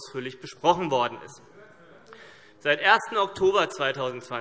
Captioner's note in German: none